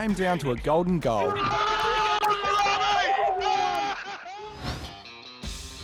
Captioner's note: cheers